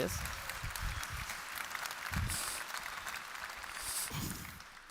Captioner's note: applause continues